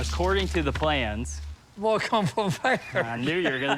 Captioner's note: laughs